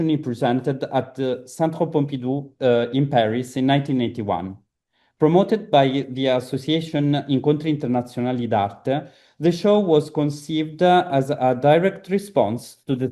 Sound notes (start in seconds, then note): 8.3 italian